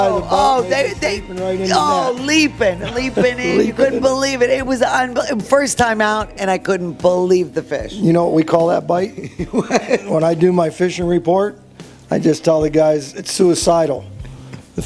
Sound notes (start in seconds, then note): 9.1 laughs